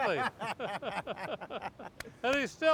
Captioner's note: laughs